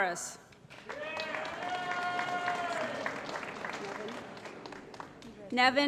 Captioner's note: applause & Cheering